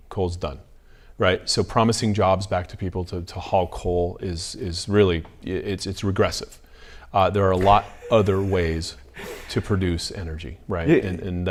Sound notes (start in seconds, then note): 7.5 laughs